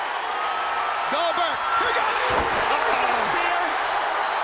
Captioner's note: crowd roaring